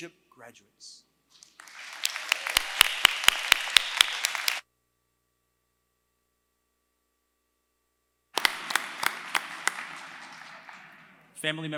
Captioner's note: applause